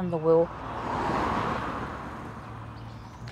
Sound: car passes

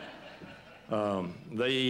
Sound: laughter

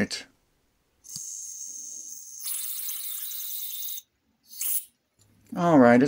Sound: spraying sound

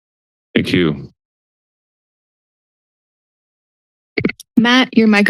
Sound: silence

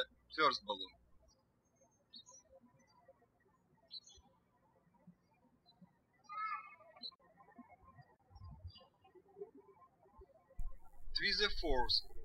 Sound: birds chirping

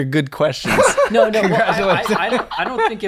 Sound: laughter

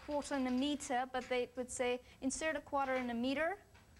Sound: American accent

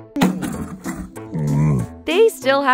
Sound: Camelot grunting

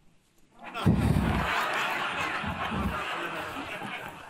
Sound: audience laughs

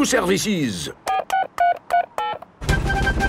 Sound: dialing

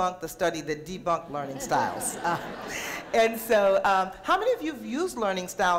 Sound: audience laughter

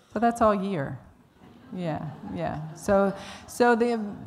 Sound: laughter

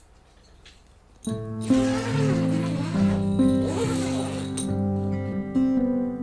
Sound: tent flap unzipping; soothing music

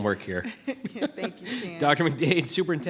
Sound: laughs

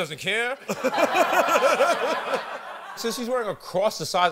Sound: laughs

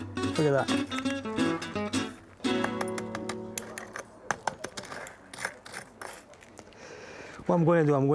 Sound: salt crunching

